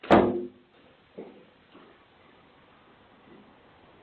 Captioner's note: door slamming